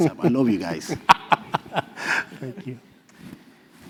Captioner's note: laugh